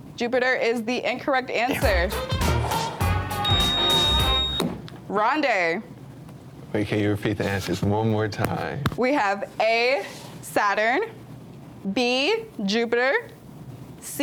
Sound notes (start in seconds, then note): 1.8 buzzer beeps; 1.8 lively music